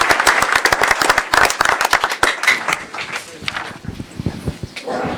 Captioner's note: applause